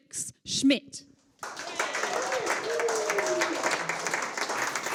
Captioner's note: audience applauds